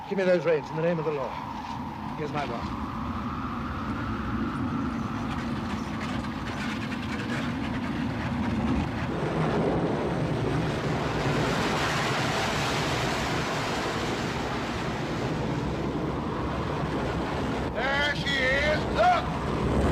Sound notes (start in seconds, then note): 3.6 wind howls; 5.2 coach rattles; 5.6 wind howls; 8.9 strong wind & waves